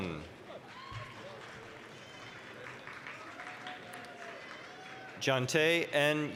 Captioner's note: applause, cheering